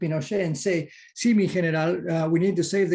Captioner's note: murmurs